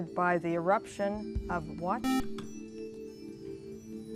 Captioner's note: buzzer